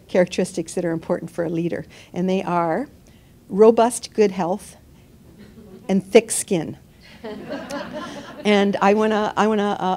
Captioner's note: laughter